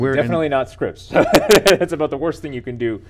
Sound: laughing

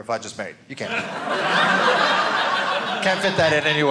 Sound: audience laughing

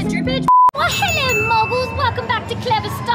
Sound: beep

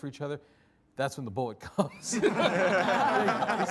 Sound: all laughing

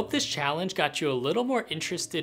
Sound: none

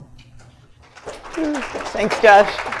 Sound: applause

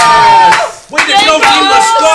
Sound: cheering

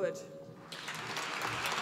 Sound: applause

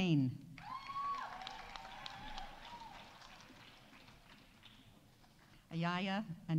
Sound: audience cheering; audience applauding

